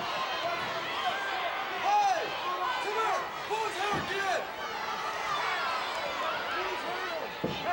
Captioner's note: wrestlers chattering; referee speaking faintly